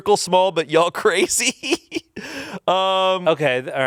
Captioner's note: laughs